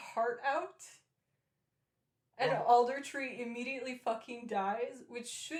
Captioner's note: distressed noise